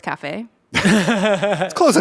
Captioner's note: everyone laughs